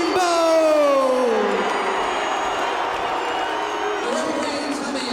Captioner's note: crowd cheering